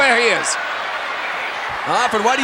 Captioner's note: audience cheering